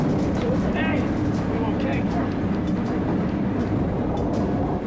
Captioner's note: shouting